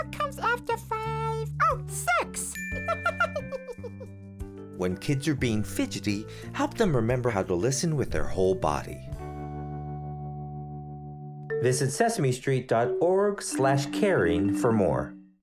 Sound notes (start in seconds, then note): 2.8 laughing